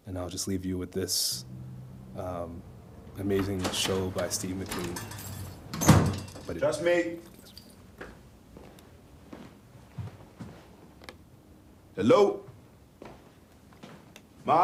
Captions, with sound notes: And I'll just leave you with this amazing show by Steve McQueen. (door slams) - Just me. (footsteps tapping) Hello?